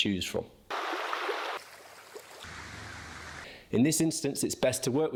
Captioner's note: water running